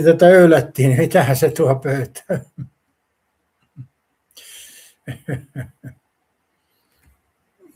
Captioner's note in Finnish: naurua